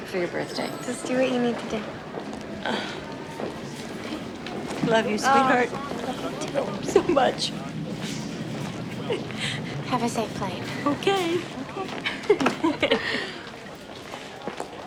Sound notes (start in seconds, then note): 11.1 laughing